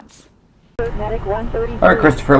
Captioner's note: dispatcher talking